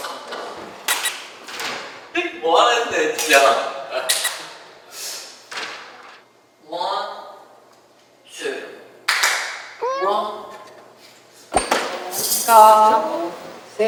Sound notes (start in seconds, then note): 3.2 clap clap; 9.0 clap clap